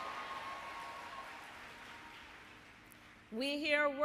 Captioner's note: applause